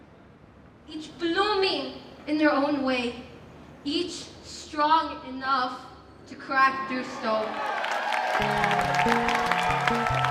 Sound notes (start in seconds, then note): 7.1 aplausos y vítores